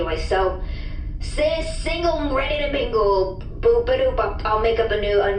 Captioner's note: unenthused noises